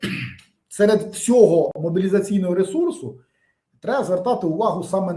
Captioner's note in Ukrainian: прочищення горла